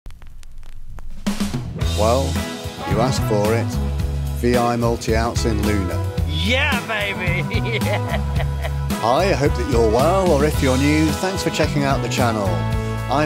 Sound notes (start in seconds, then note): 1.6 upbeat music; 6.7 laughs